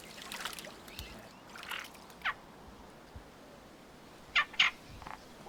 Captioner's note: water splashing; bird cawing